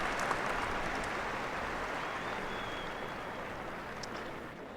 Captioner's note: applause